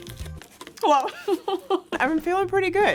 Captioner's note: laughing